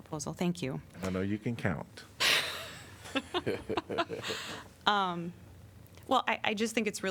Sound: laughter

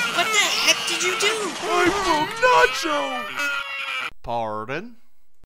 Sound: Nacho continues freaking out

